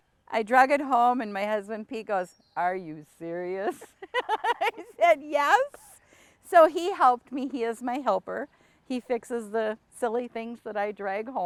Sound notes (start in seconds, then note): 3.6 laughs